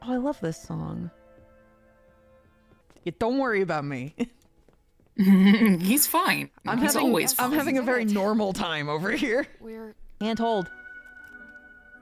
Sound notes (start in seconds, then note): 5.5 laughing